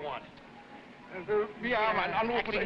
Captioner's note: officer speaking foreign language